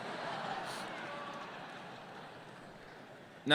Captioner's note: laughter